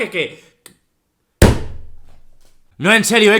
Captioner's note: punchs the table